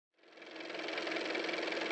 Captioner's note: car motor